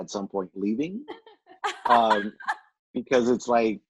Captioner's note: laughing